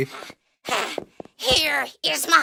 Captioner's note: panting